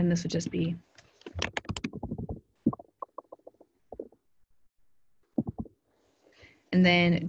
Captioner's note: typing sounds